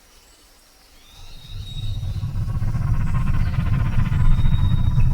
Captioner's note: aircraft whirring